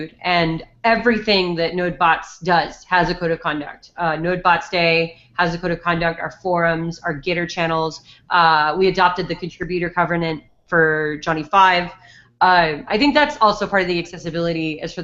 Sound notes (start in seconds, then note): none